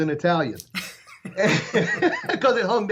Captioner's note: laughing